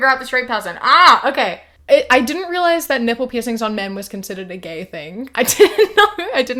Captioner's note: laughs